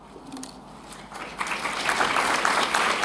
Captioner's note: applause